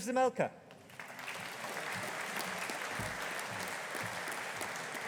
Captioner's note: audience applauding